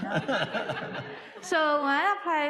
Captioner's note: audience laughing